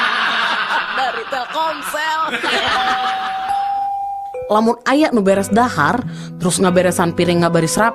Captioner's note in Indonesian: tertawa